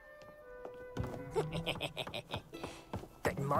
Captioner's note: he sniggers